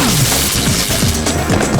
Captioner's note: laser gunfire; grunting